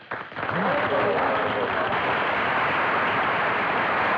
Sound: crowd Applauding

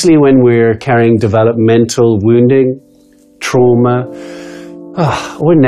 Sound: sighs

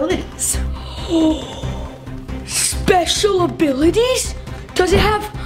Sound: gasping

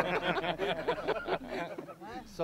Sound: laughter

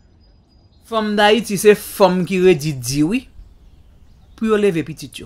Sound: speaking foreign language

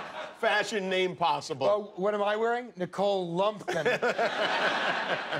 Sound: laughter

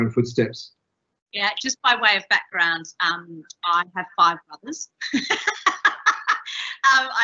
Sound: laughing

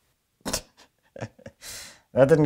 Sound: chuckles

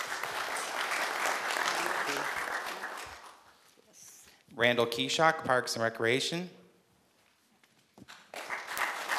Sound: applause

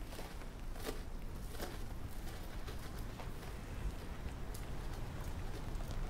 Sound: wind blowing

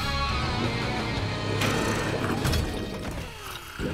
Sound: snoring

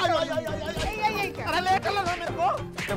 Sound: beating with stick

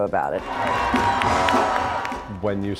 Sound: cheers and applause

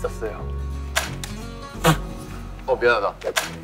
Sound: laughing!

